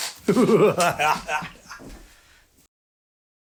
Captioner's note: evil cackle